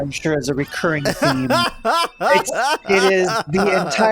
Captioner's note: laughs